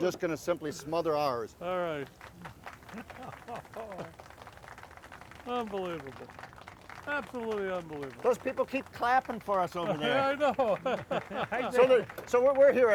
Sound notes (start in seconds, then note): 3.0 laughs; 9.9 laughs